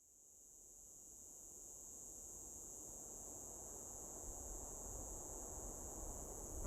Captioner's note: crickets chirping